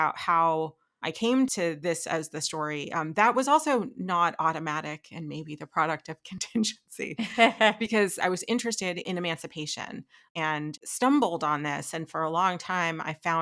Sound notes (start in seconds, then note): 6.8 laughing